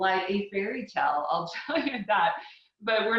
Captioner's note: chuckling